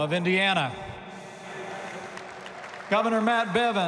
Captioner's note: applause